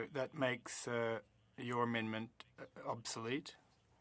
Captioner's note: speaking French